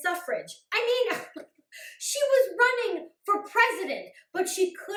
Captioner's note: laughs